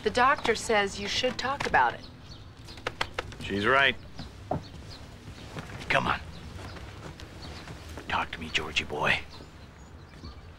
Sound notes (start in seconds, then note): none